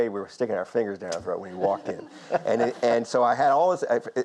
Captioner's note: audience laughs